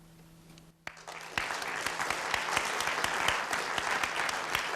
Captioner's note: applause